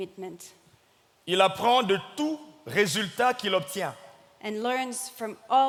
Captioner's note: speaking in French